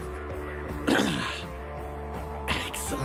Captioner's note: clears Throat